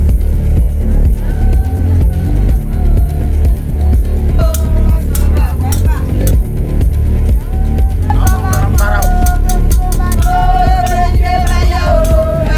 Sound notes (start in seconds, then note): 0.2 suspenseful music; 5.5 women chanting